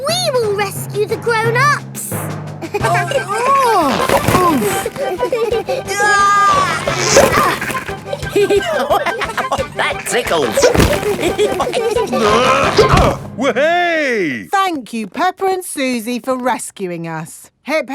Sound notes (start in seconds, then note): 2.9 giggling; 2.9 grunting; 5.8 giggling; 8.6 laughing; 11.3 all giggling; 12.0 grunting